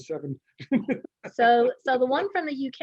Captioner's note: laughing